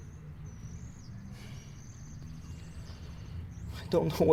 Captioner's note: sighs